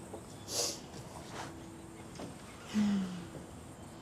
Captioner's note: sniffs